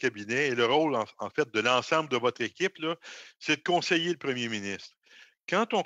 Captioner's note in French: voix de l'interprète